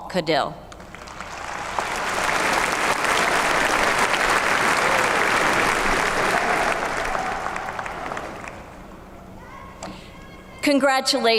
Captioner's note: applause